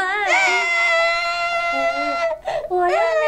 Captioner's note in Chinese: 哭声